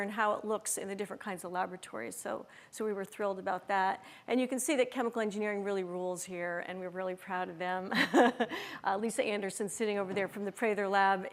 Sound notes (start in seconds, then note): 8.5 laughs